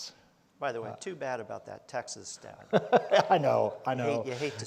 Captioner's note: laughs